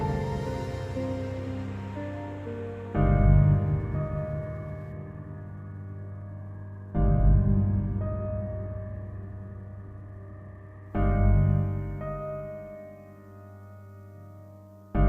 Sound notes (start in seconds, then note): none